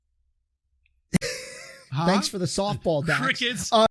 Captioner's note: laughing